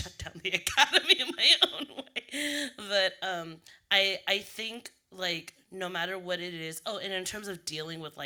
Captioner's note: laughing